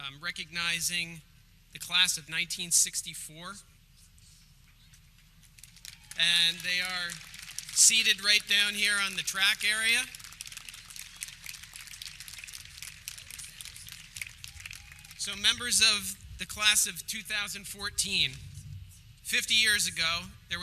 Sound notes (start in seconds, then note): 10.7 audience clapping